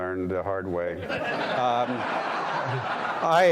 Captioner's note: audience laughing